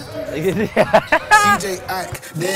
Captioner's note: laughs